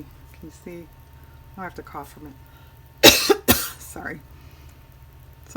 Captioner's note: coughing